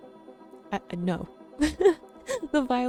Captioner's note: chuckles